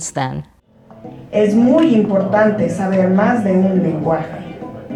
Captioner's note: speaking Spanish